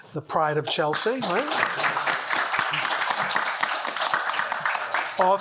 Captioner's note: audience applauds